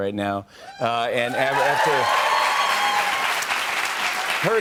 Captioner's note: cheers and applause